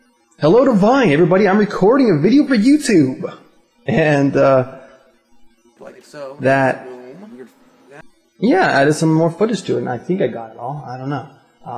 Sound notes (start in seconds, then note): 3.8 chuckling